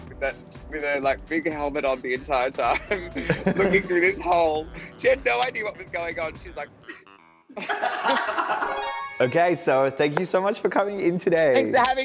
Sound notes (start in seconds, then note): 7.5 all laughing; 8.6 magical music